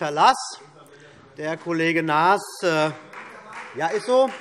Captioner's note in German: Demonstrativer Beifall Freie Demokraten